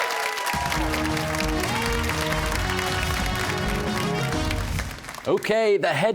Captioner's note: cheers and applause